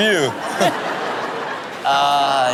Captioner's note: audience laughing